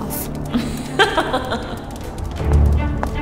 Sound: laugh

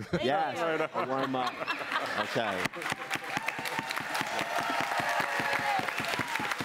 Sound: cheering and applause

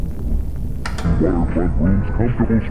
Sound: television static hissing; thunder rumbling; VHS player clicking

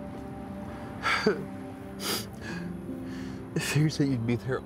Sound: Matt crying

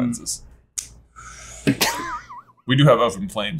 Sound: sharp intake

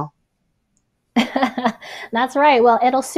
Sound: laughs

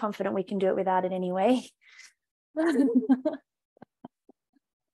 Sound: laughing

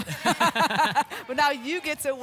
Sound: laughter

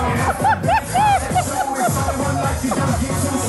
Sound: laughing

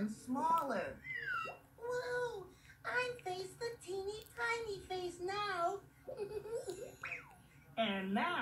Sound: giggles

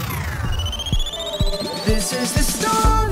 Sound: device trills; screen whooshes; graphics beeps

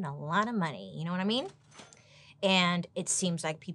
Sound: cash register dings

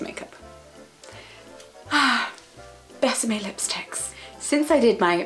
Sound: loving sigh

